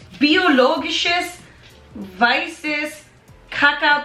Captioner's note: in foreign language